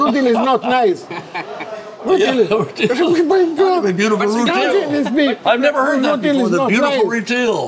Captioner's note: all laugh